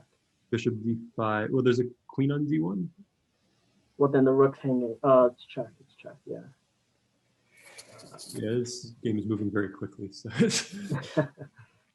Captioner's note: laughter